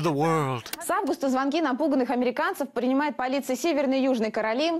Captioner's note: russian newscast